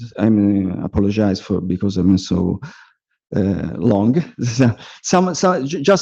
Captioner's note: laughs